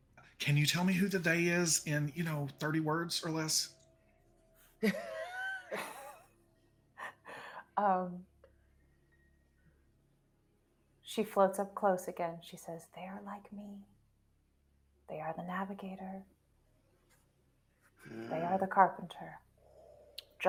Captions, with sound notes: - Can you tell me who the they is in, you know, 30 words or less. (person chuckling) - She floats up close again, she says, "They're like me. They are the navigator. They are the carpenter.